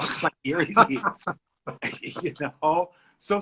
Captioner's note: laughs